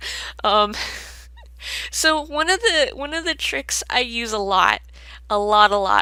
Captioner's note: laughs